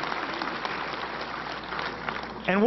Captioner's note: applause